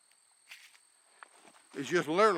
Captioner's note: rock scraping